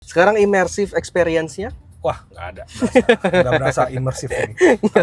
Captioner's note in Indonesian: tertawa